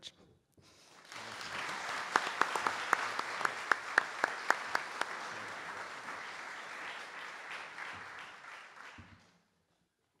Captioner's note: audience Applause